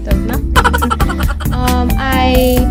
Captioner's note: laugh